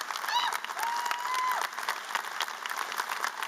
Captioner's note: applause